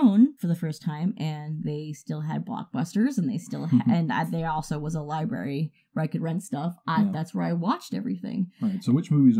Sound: stammers

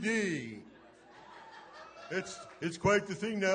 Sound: laughing

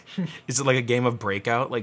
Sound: laughs

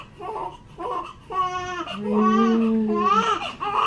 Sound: baby crying

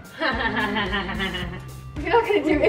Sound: evil laugh

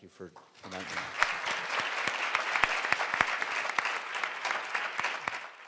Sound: everyone clapping

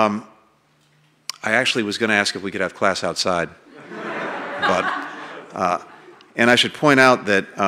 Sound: laughter

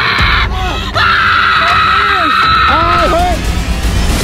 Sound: screams loudly

